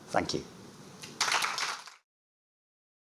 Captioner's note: applause